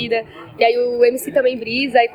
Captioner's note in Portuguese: barulho da plateia se dispersando ao fundo